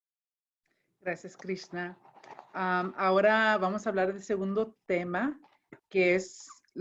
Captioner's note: speaking in foreign language